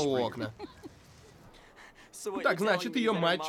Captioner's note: chuckles